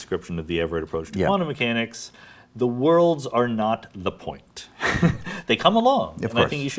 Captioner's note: laughs